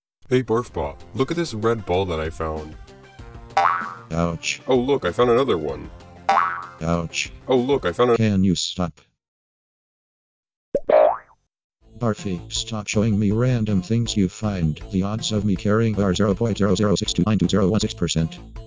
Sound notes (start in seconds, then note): 10.7 pop; 10.8 boing